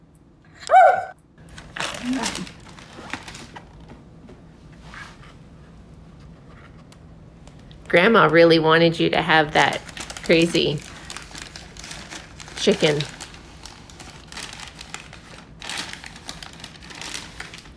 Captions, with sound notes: (ruff) (paper crinkling) Grandma really wanted you to have that crazy chicken! (paper crinkling)